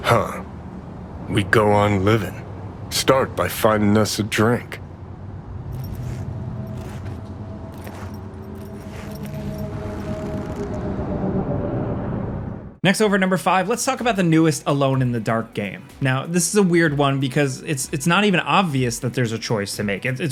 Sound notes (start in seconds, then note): 6.4 gentle music; 6.6 feet shuffling